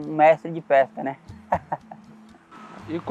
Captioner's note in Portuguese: risos